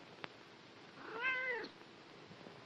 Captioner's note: meows